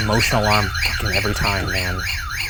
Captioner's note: device alarm ringing